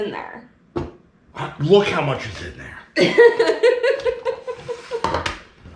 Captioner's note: laughing